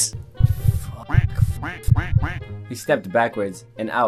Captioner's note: duck quacks